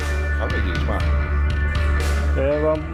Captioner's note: speaking in Greek